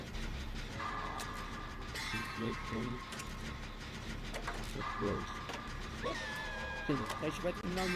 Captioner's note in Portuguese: som de passos